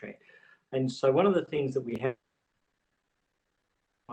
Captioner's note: audio distorts